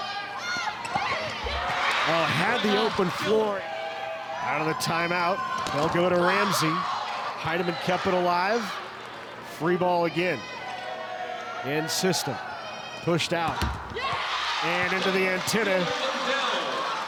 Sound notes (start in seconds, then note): 1.4 audience cheering